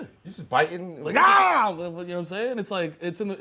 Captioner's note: shouting